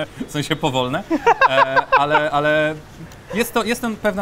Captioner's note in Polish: śmiech